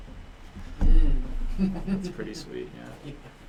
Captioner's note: laughter